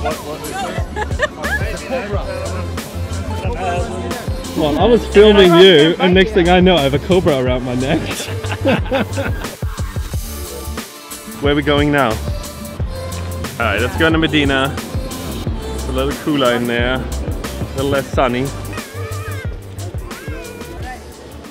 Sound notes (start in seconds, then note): 0.1 ambient music; 7.9 laughs; 9.7 ambient music; 18.7 ambient music